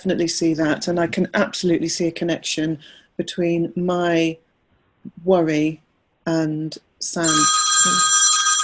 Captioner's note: ring